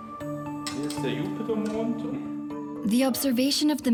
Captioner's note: scientist speaks German